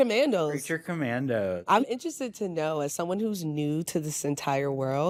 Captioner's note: none